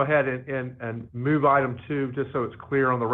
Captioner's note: ~audio distortion~